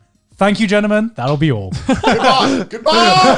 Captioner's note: laughs